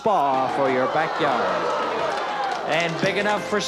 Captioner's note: audience cheering